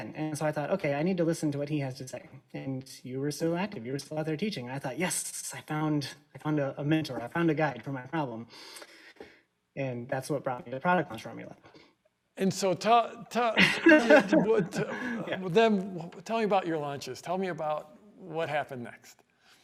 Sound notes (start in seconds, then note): 13.4 laughs